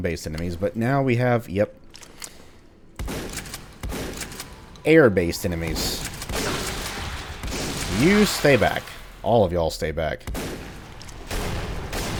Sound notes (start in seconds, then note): 5.6 moar Shotgunning, Gasbags exploding